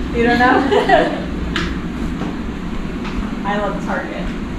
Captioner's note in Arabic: يضحك